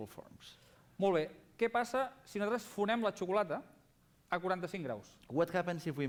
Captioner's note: non-english speech